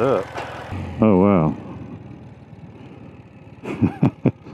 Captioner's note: engine running; laughing